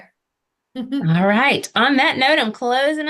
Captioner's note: laughs